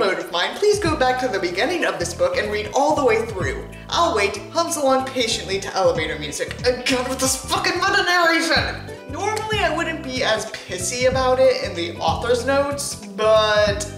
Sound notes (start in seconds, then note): 4.5 hums along patiently to elevator music